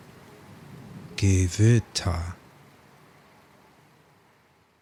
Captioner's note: german